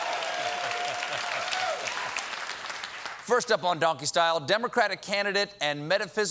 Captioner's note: cheers and applause